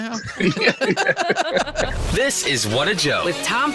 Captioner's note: all laughing